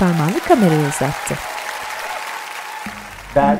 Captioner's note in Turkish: Fonda alkış sesleri